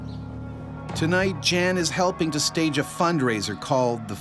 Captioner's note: voiceover